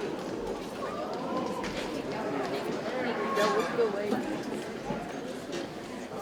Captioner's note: indistinct chatter from audience continues